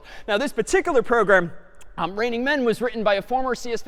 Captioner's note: none